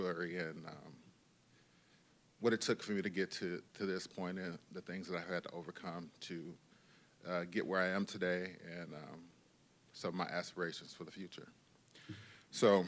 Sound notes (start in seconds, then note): none